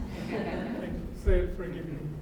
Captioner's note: laughter